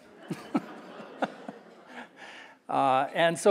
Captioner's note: audience laughing